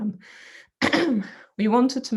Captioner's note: coughs